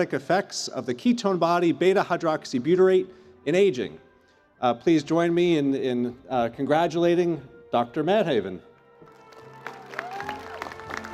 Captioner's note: cheers and Applause